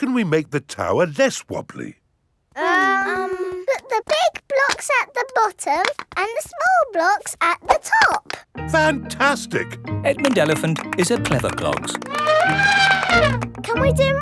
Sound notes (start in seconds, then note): 2.6 children hesitating; 11.7 trumpets